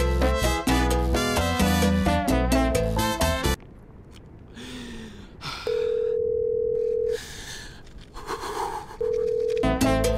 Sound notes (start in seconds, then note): 0.1 upbeat music; 5.7 phone rings